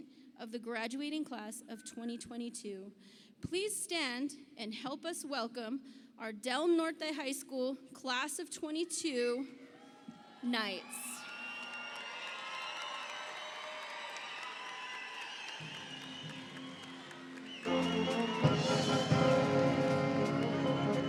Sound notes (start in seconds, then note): 11.3 audience cheers; 18.0 orchestral music